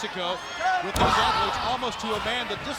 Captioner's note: blows thudding